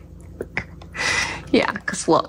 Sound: laugh

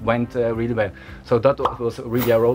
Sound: pop

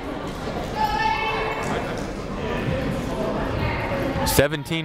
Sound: people shouting in the crowd

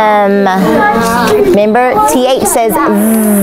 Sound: buzzing

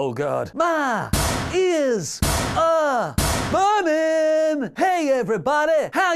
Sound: headbutting locker door sound

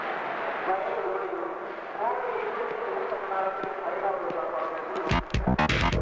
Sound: indistinct Voices

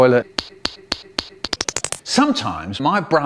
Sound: slap

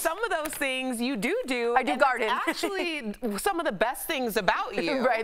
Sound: laughter

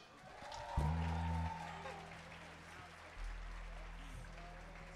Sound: audience applauding

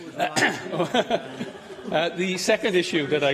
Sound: laughter

